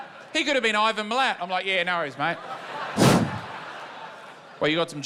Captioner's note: whoosh